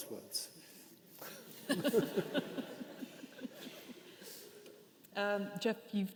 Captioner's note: participants laughing